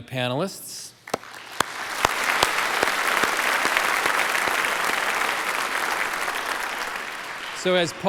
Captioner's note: applause